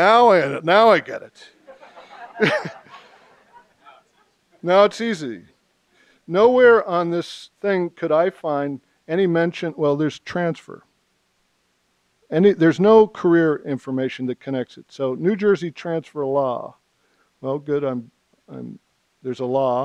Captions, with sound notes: Okay now I get it. (laughter) No, it's easy. Nowhere on this thing could I find any mention, well, there's transfer. There's no career information that connects it. So, New Jersey transfer law. Well good, there's a law.